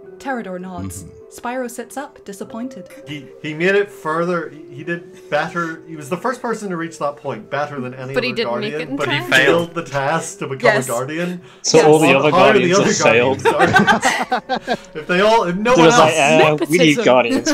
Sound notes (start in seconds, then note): 13.2 laughter